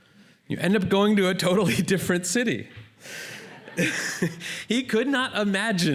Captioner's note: laughter